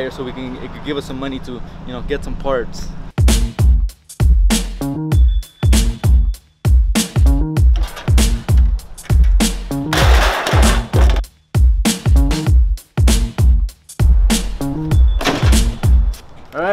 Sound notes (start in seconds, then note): 3.0 upbeat funky music; 9.7 metal clanking